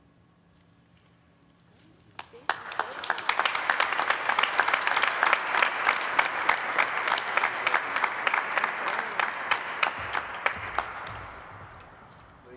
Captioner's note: applause